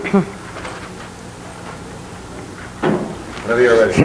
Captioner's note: clears throat